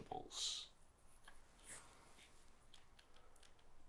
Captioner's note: clicking of game controller